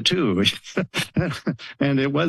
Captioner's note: laughs